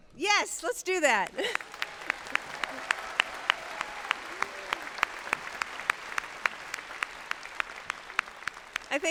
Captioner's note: applause